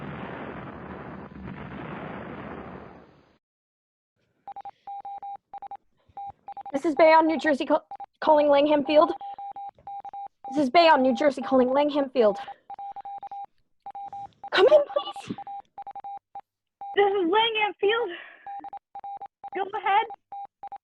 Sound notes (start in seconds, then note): 0.0 plane goes down, explosion; 4.5 morse code beeping throughout